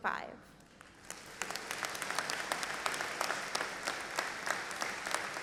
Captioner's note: audience applauding